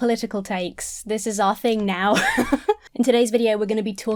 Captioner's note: laughs